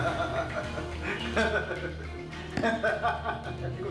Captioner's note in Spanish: Risas